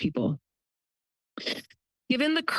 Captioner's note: pause